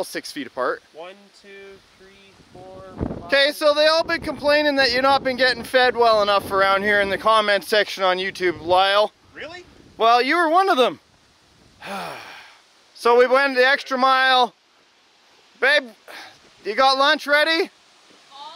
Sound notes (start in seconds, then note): 11.8 groans